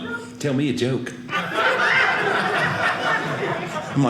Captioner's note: audience laughing